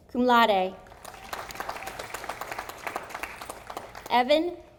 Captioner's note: audience applauding